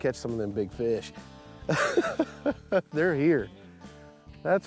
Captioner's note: laughs